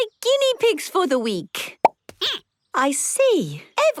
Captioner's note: squeaking